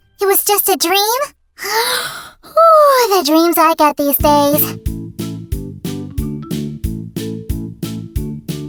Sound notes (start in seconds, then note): 1.6 yawn